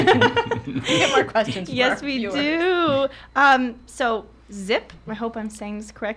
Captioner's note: laughs